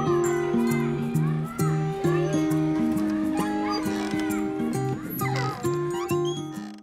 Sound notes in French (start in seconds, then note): 2.6 bruits de cour de récréation